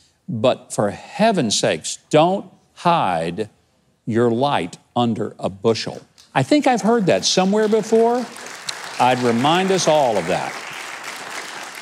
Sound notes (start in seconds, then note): 6.7 clapping